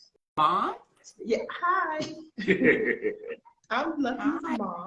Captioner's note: laughing